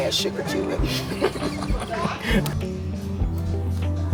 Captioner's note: laughter